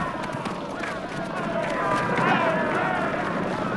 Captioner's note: raider shouting